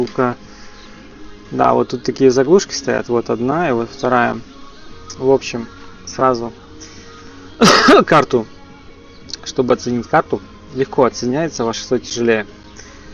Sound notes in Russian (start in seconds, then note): 7.6 кашель